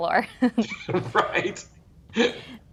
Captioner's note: chuckling